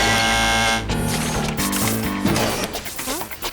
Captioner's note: buzz